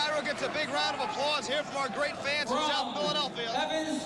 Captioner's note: cheers and applause